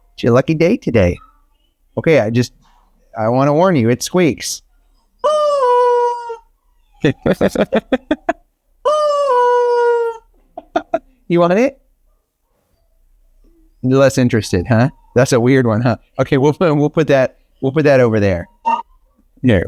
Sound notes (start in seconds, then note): 5.2 toy squeaks; 7.0 Rocky laughs; 9.2 toy squeaks